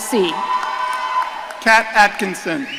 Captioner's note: audience cheering